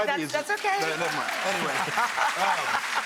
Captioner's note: audience applauding